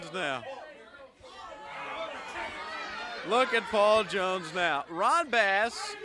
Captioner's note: crowd chatter